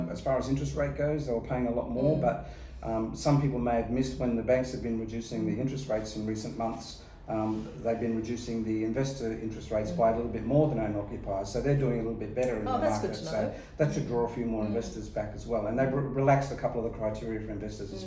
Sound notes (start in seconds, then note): 9.6 murmurs